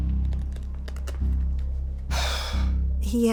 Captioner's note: exhales